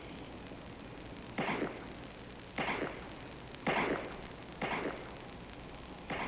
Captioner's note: gunshots echoing